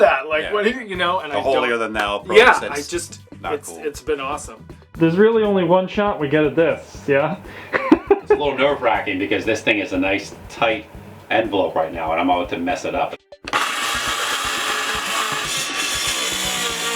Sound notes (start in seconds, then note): 13.4 machine whirs